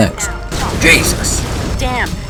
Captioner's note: explosion